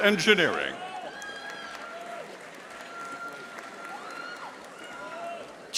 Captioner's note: audience applauding